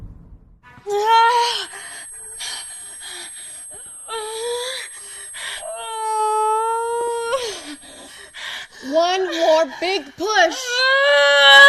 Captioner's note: screams